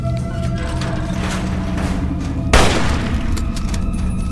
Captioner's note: the door unlatches